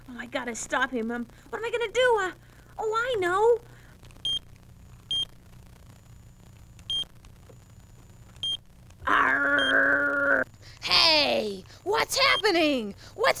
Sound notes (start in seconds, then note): 4.5 beep, Beep; 9.0 growling